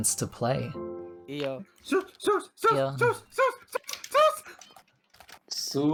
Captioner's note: panicked noises